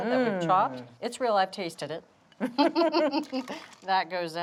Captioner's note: both laugh